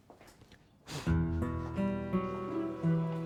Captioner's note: blowing